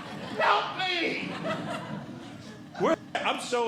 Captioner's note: audience Laughing